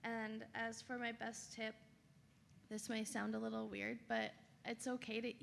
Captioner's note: none